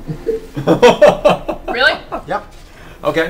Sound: all laugh

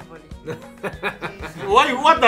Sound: evil laughter

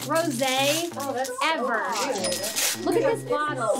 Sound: clinking sound

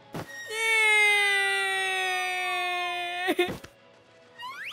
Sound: long, drawn out cry in despair

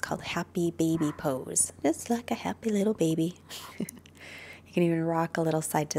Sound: chuckles

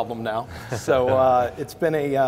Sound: chuckling

